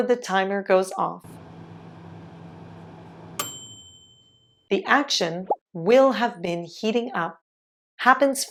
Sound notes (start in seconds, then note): 1.2 fan sound; 3.4 bell sound